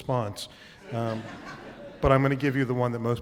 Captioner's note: laughter